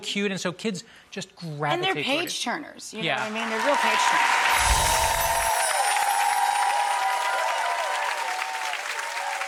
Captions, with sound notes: Like it's so cute. And so kids just gravitate. And they're page turners, you know what I mean? Yeah. They're real page turners. (audience applauds)